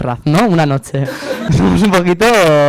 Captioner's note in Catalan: rialles